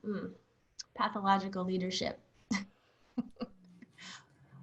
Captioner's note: laughs